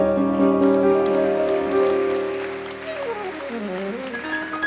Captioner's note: audience clapping